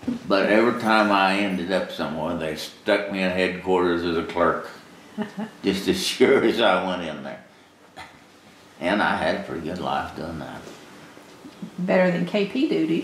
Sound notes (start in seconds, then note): 7.7 laughs